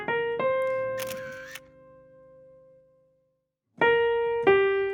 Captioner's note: camera shutter clicks